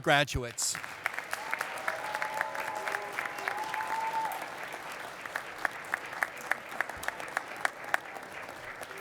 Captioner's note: applause